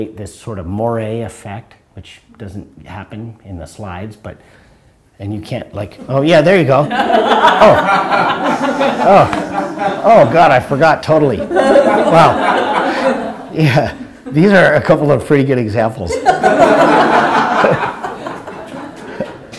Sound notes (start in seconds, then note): 16.1 laughter